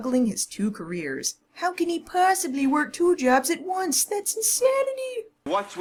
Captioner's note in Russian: саркастично